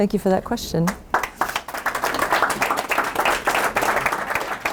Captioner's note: applause